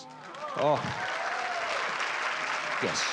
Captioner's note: cheering, applause